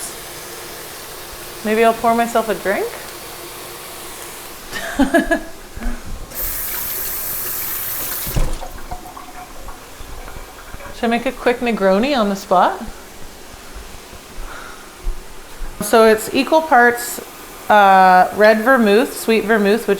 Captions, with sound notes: Woops. Maybe I'll pour myself a drink? (laughs) (running water) Should I make a quick Negroni on the spot? So it's equal parts red vermouth, sweet vermouth,